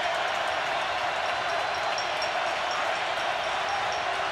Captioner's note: crowd cheering